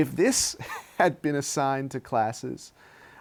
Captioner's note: laughs